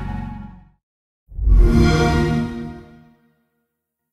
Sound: xbox sound

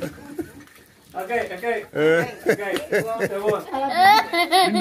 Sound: speaking in Foreign language

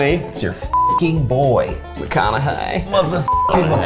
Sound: beep; beep

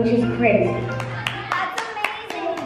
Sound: family claps

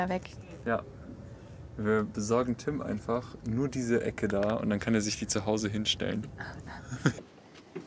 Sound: everybody chuckles

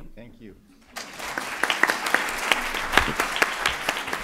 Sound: applause

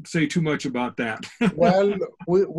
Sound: laughs

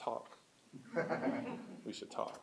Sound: laughter

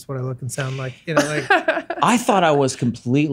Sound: laughs

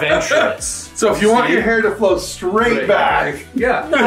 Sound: laughing

